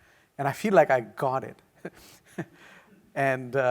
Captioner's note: laughs